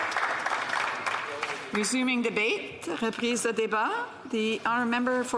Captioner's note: some Applause